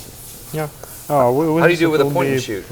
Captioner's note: none